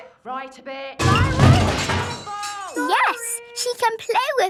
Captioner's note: crash!